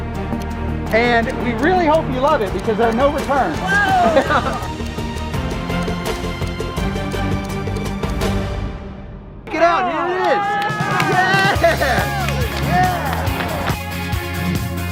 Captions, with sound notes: And we really hope you love it, because there's no returns. - Whoa! (triumphant music) - Here it is. (people cheering)